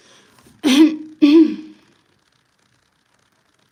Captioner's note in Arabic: تنحنُح